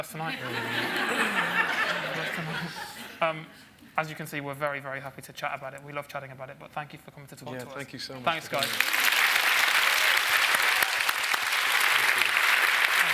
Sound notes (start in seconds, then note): 0.2 audience laughs; 8.4 applause